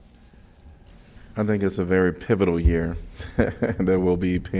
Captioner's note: laughter